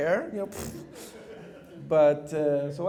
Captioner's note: laughter